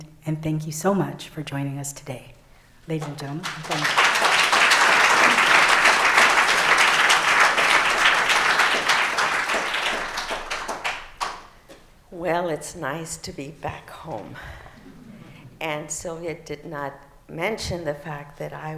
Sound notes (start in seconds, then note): 7.6 applause